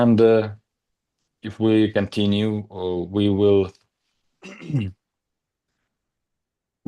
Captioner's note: coughs